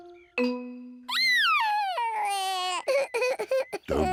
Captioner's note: sobbing